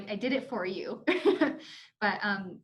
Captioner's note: chuckles